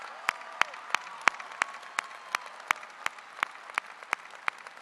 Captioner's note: applause